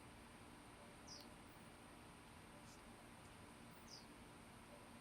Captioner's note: birds chirping